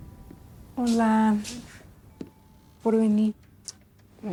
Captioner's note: all speaking in Spanish; both kissing